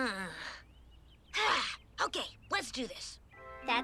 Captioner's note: sighs